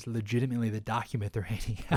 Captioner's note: laughs